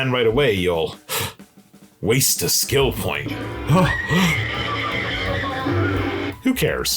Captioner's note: duh duh duh; gasp!